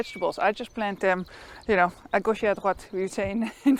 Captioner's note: speaking in a foreign language